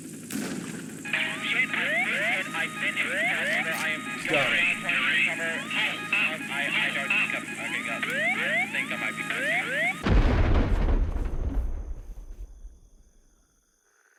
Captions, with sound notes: *helicopter panic* "Shit, I've been hit! I've been hit in the tail rotor, I am going down, trying to recover... *helicopter panic* "Shit, I've been hit! I've been hit in the tail rotor, I am going down, trying to recover... "Got 'em." *continued helicopter panic* ...Oh- I- I don't think I- Ok, no, I... I think I might be fucked here."